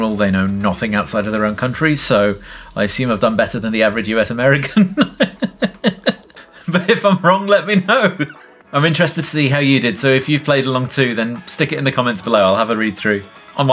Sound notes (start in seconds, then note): 4.7 laughs